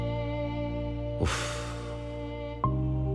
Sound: sighs

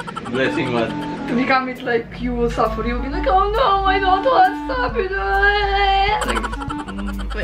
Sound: whines

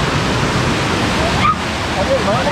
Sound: screaming

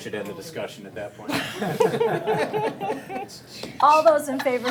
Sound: all laughing

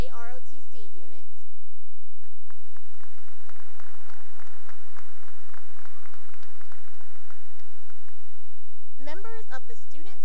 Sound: applause

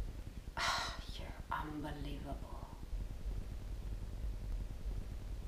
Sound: sighs

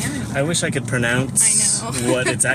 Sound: laughs

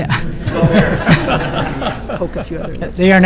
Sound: audience laughing

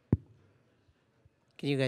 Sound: tap on mic

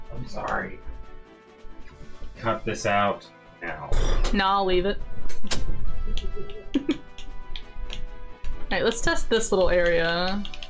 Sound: laughs

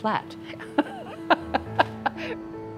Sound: ^laughter^

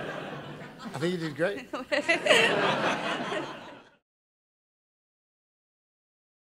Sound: laughs

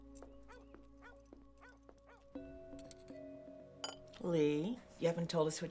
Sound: dog barking in distance

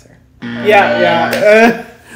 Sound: buzzer

